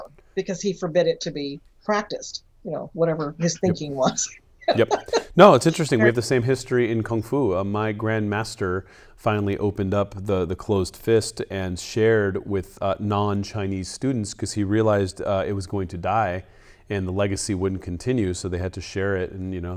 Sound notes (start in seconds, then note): 4.6 laughs